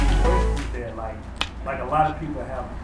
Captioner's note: laughing